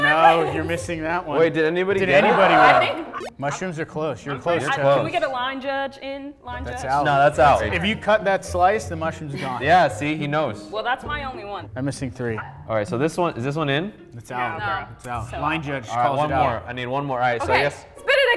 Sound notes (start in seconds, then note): 2.6 groans